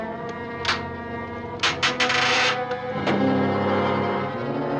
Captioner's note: board creaking